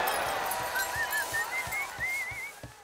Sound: audience cheering; whistling

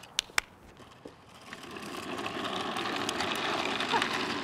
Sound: wheels rolling; clapping

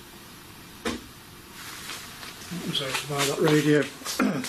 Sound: loud knock

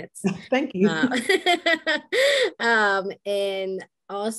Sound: laughs

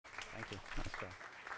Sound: applause

